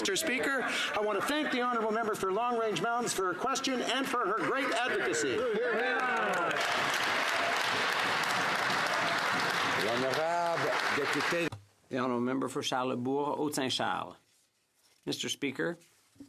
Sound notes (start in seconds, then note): 10.8 some Applause